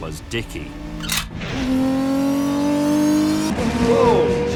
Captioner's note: gear clicks and engine roars